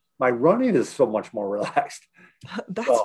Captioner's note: laughing